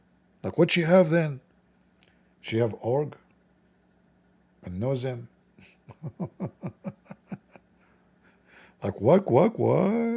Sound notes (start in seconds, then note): 5.6 Ketawa